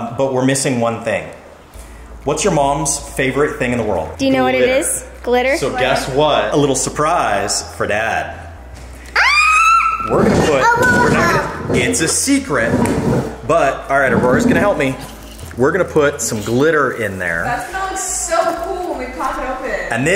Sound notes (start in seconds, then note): 9.1 girl screams